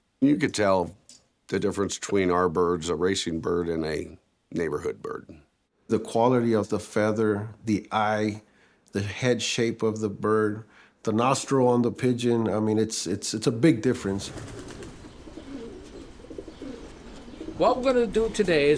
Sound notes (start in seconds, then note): 13.9 wings rustling; 14.0 pigeons cooing